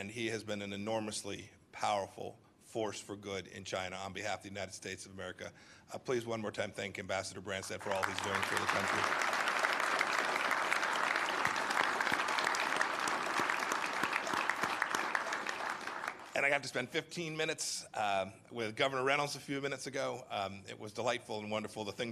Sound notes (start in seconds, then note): 10.1 applause